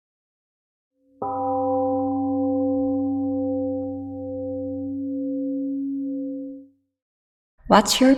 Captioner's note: temple gong rings and fades